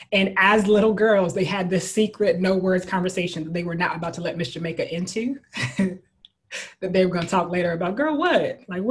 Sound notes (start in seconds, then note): 5.6 chuckles